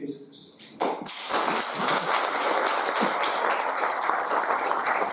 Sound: audience applauding

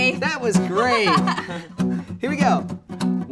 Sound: laughs

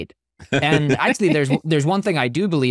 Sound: laughing

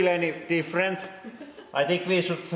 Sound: giggles

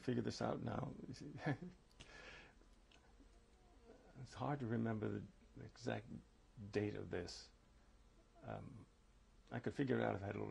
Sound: laughs

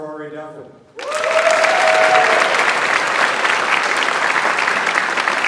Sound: audience applauds

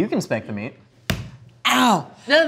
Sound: thudding

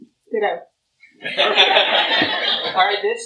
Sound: laughter

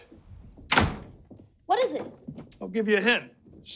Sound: door closes

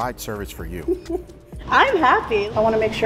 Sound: laughing

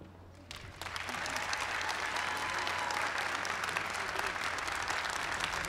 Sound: applause

